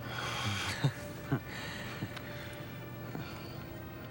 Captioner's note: Adam chuckles